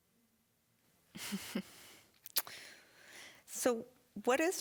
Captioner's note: chuckling